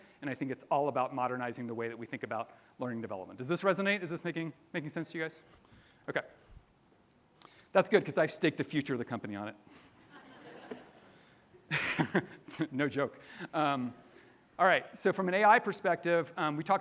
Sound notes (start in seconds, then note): 10.1 audience laughs; 11.7 laughs